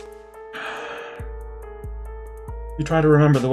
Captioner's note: exhales